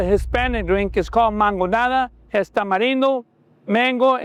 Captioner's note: speaking Spanish